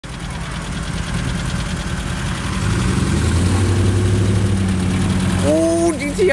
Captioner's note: cars idling